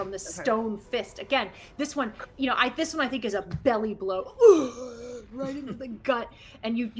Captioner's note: groans